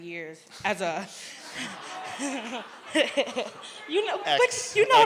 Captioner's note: laughter